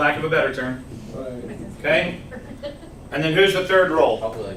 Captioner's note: laughs